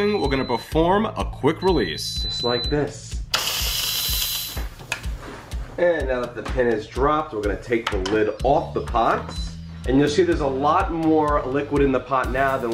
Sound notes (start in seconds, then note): 3.3 cooker hissing